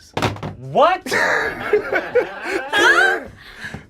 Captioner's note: group laughs